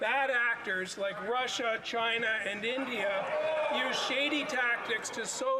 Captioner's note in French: voix de l'interprète